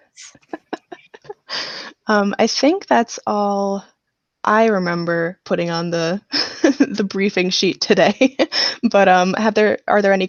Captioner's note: laughs